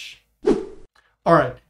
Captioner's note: air whooshing